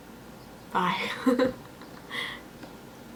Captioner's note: giggles